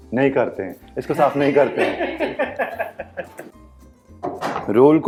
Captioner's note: chuckles